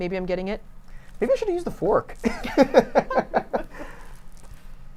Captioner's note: laughing